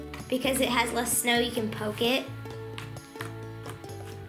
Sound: none

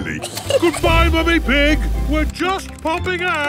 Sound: giggles

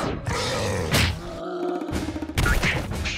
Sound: snarls and howls

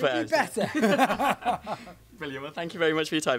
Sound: laughs

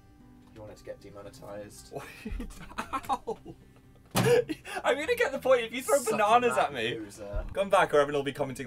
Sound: giggling

